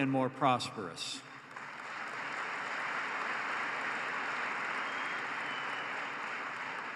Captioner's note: applause